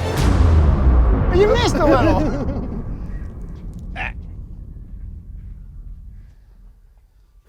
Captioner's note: laughing